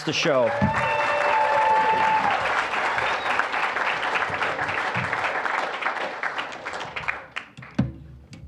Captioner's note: applause, cheering